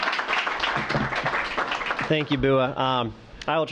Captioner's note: applause